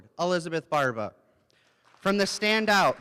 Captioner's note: applause